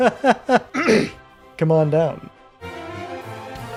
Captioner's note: cringeworthy laughter; ahem